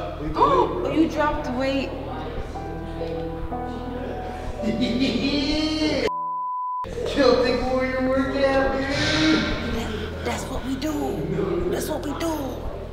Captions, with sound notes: >> You dropped the weight. >> [LAUGH] Chill think, we're in a workout, dude. >> That's what we do, that's what we do.